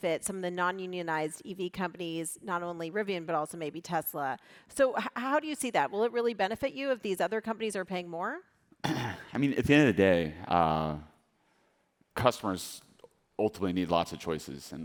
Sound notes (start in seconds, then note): 8.8 RJ clears throat